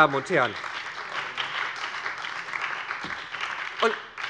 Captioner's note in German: Beifall bei der SPD und der FDP